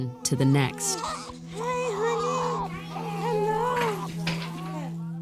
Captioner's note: baby crying